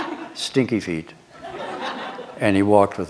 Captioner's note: laughter